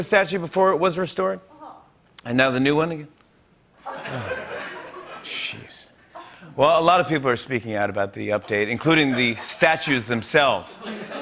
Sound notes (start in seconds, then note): 3.8 laughter